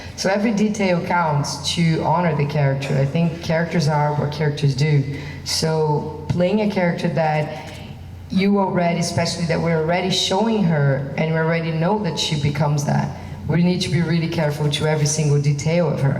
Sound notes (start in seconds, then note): none